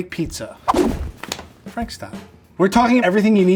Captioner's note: air whooshing